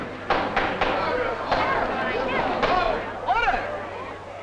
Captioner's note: group chattering; gavel banging